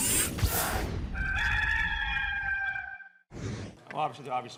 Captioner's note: rooster crowing